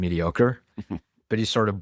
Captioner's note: laughs